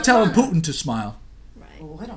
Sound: voiceover

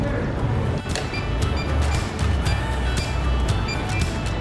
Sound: beeping

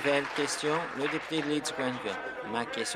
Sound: applause

